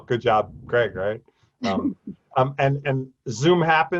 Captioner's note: laughing